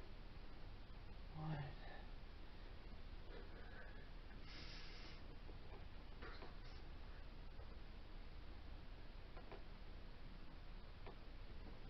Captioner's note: whisper counting and grunts/sighs of exertion